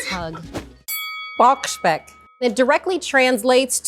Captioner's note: bell rings